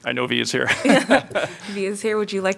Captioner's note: laughter